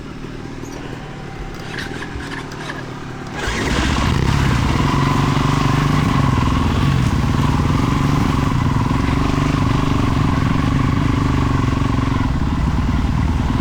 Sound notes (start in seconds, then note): 0.3 laughing; 4.8 engine revving